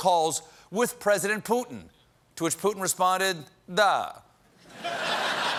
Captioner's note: as putin